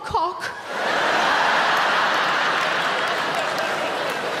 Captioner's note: audience laughing